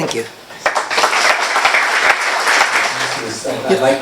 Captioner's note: applause